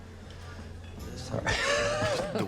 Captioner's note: laughs